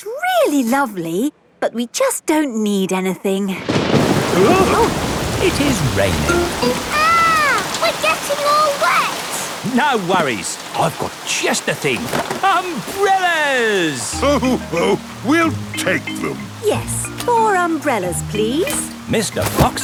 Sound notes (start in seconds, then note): 4.3 parents gasp; 4.3 thunderclap